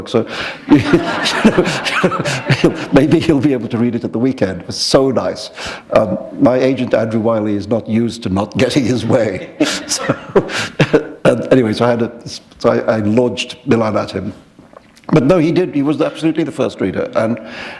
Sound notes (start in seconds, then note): 0.6 laughter; 9.5 chuckle